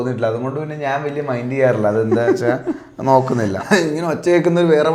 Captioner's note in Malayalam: പൊട്ടിച്ചിരി